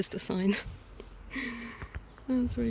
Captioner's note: chuckles